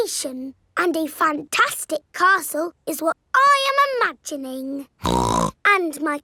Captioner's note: snorts